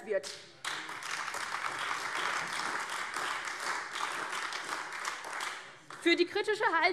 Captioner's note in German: Beifall AfD